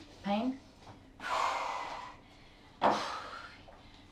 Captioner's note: heavy breathing